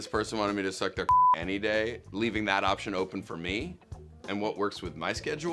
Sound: beep

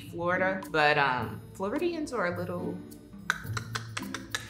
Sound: tongue clicking

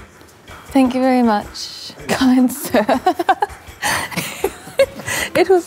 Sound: laughs

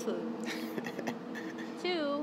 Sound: laughs

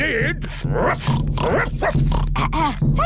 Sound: oinks; barks; clears throat

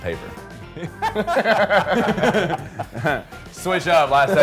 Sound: men laughing

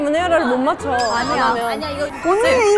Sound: confident

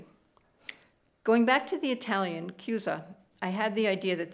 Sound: speaking italian

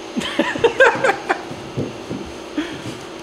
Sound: man laughs

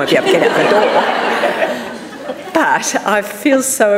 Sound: audience laughing

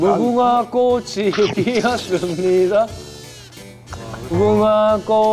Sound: chomping

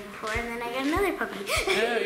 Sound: laughs

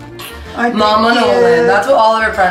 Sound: kiss

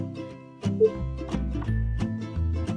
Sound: system beeping

